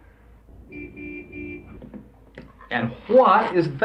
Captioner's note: car horn honking